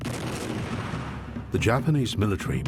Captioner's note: artillery booming